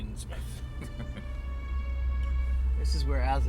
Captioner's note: chuckling